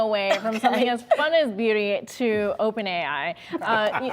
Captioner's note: laughter